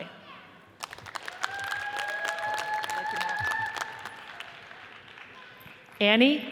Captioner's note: audience cheers and applauds